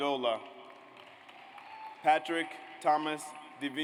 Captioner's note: audience applauds